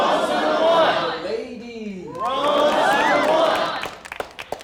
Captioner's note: crowd